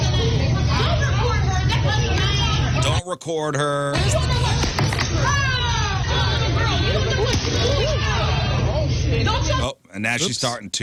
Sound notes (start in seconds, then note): 3.7 yelling